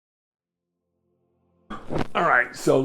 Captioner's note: pause